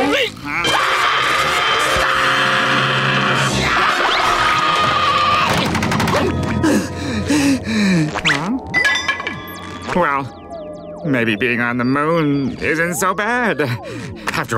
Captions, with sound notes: [screaming] [screaming] [panting] Huh? Well... maybe being on the moon isn't so bad after all.